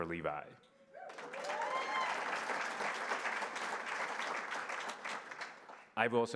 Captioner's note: applause